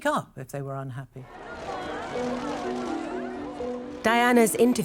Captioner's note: crowd cheers loudly